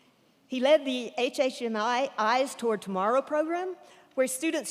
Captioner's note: none